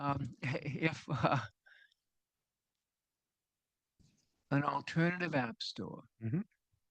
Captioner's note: laughs